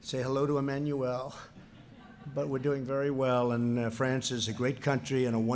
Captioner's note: laughter